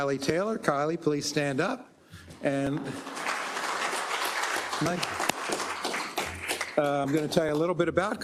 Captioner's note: applause